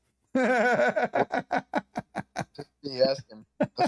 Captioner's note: Ketawa